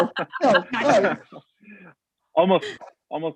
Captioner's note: laughter